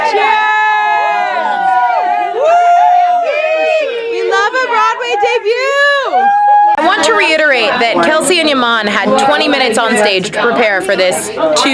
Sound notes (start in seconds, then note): 1.9 group yelling and talking